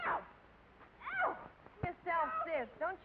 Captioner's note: granny yelps